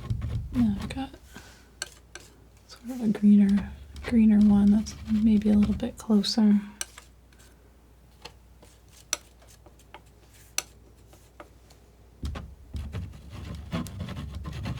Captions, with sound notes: Yeah, I've got sort of a greener one that's maybe a little bit closer [scratching]